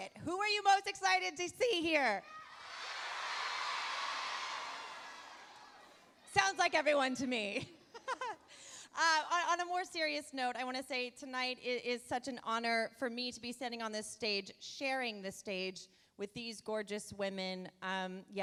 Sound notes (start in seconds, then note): 8.3 laughs